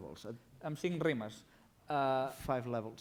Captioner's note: non-english speech